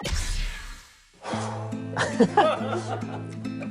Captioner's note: sigh